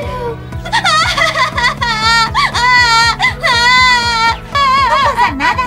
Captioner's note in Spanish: llora